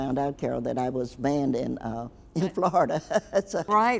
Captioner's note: laughs